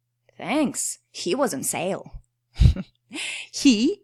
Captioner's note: laughs